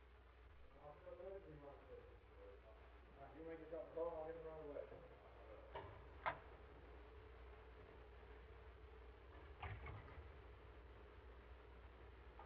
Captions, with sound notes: (faint distant chattering) Now you make yourself at home, I'll get them right away.